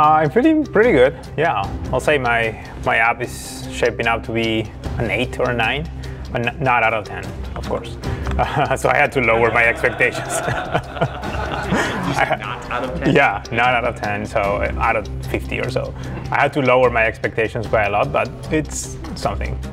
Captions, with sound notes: I'm feeling pretty good, yeah. I'll say my app is shaping up to be an eight or a nine, but not out of 10, of course. So I had to lower my expectations. (laughing) You said not out of 10. Yeah, not out of 10, so out of 50 or so. I had to lower my expectations quite a lot, but it's something.